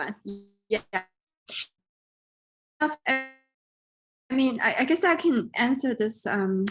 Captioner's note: audio distortion